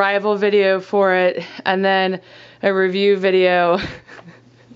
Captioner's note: laughing